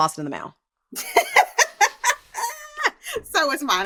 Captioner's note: laughter